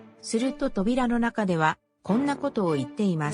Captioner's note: none